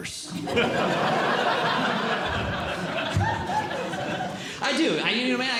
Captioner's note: audience Laughing